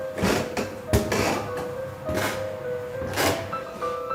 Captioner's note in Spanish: Escalera crujiendo